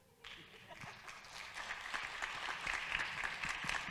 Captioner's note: audience claps